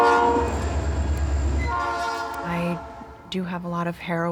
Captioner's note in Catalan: soroll de la botzina del tren